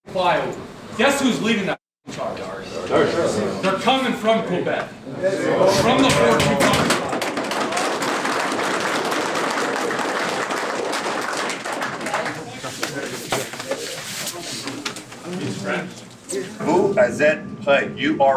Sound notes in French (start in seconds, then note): 6.0 Applaudissements